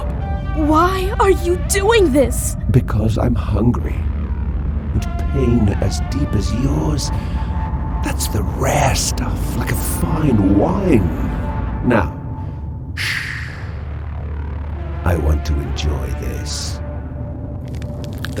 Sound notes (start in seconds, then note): 0.4 near tears; 3.1 monstrous voice